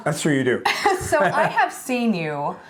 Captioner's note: chuckles